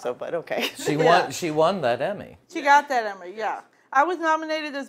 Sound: laughing

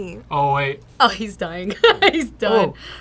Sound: laughs

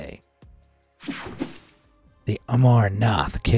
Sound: techno sound effect

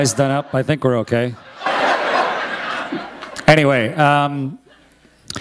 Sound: laughter

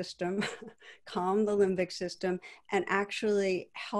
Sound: chuckles

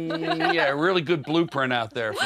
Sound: girls laugh

